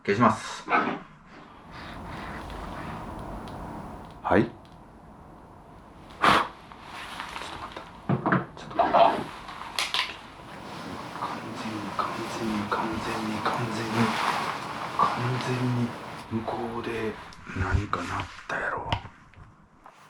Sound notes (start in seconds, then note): 1.9 sound of something moving